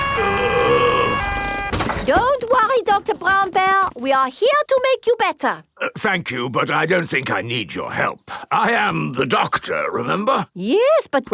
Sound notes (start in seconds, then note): 0.0 groaning